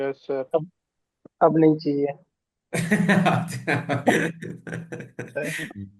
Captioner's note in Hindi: हंसी